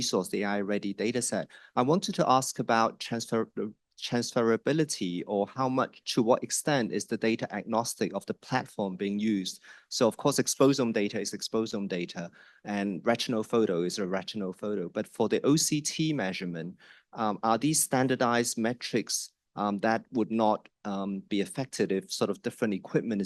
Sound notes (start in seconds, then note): none